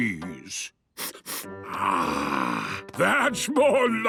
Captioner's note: sniffs